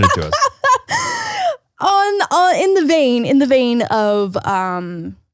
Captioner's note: laughs